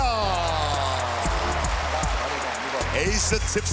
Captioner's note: applause